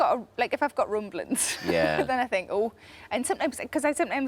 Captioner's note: laughs